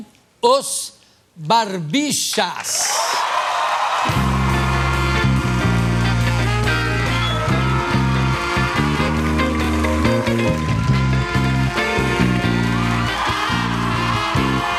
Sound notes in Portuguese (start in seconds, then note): 3.8 aplausos e música